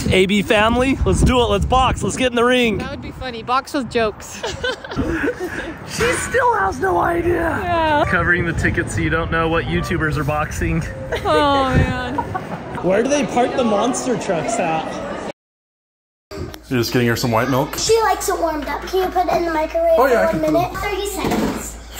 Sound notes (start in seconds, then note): 4.2 laughs